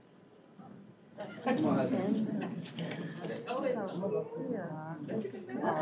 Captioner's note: indistinct chatter